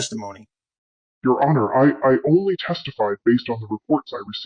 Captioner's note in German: verzerrt